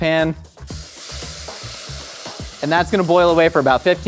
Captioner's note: liquid sizzles